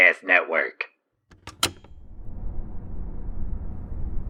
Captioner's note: road sounds heard from inside truck while driving